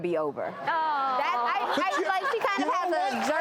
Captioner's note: audience laughing